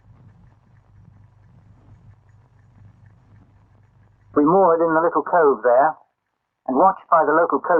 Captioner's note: silence